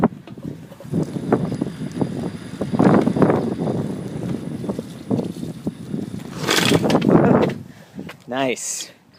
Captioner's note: motor whining